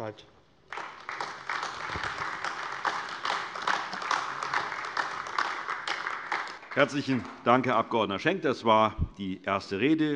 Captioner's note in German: Beifall AfD